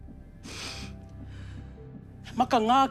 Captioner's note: sniffles